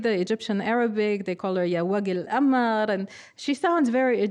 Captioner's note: speaking arabic